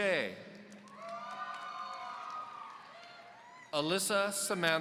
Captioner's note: audience cheering